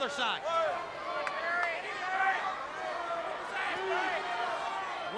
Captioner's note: crowd chattering